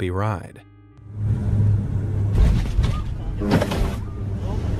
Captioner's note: plane engine revving